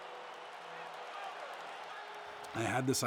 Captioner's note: crowd cheering